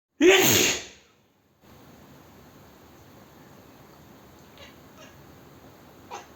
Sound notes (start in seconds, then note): 0.2 sneeze